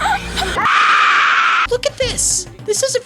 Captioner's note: Screaming in Nazi